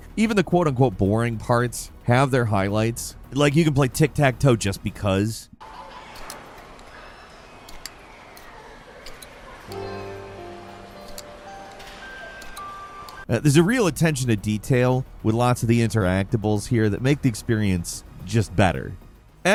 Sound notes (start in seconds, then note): 6.5 gentle instrumental music; 6.5 tiles clinking